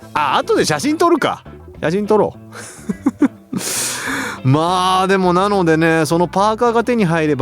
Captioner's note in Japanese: 笑い; 息をのむ音